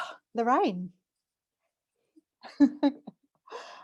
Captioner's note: laughs